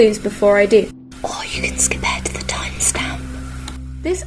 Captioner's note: whispering